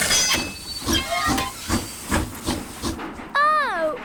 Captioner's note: train chugs